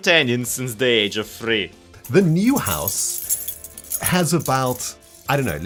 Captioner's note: keyring jingling